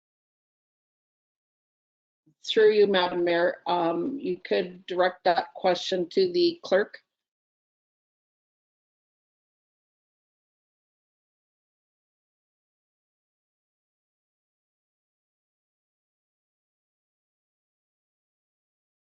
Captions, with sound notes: Through you madam Mayor um you could direct that question to the Clerk. [No audio]